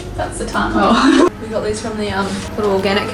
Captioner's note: laughs